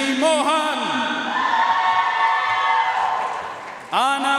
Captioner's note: audience cheering and applauding